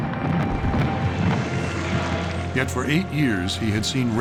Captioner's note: fireworks exploding